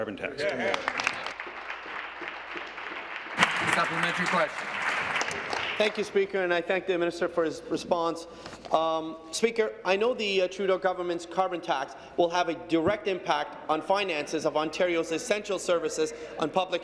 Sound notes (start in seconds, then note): 3.6 applause